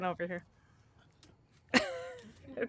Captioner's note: laughter